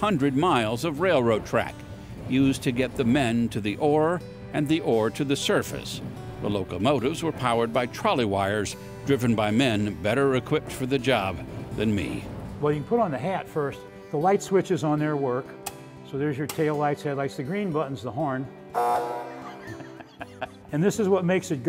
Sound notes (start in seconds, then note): 18.7 honk; 19.4 laughs